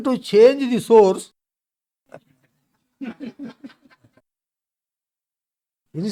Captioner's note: laughs